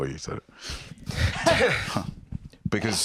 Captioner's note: all heh-ing